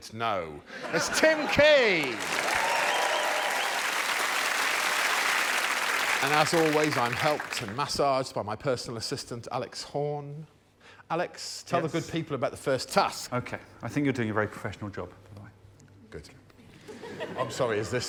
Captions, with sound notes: Not true. Secondly, a man whose hair and voice I still find surprising; Josh Widdicombe. [cheers] [applause] She once dropped my by flat with two family packs of meatballs, one of which she ate by herself. Roisin Conaty.